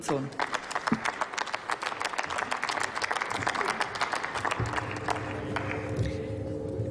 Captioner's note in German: Applaus